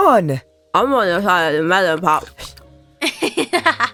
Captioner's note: mouth full